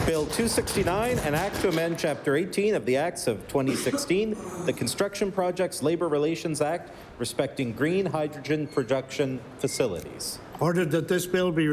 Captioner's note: applause